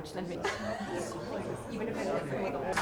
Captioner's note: member laughing